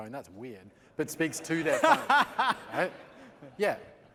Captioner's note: laughter